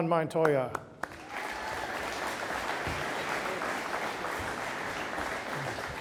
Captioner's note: audience applauding